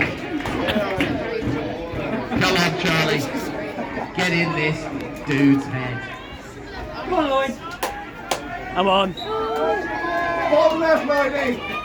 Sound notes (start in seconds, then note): 9.1 whistle